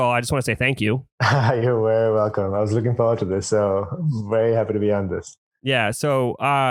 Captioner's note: laughs